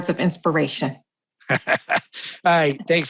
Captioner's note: chuckles